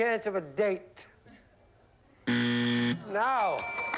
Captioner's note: buzzer